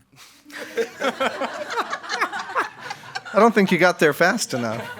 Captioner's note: attendees laughing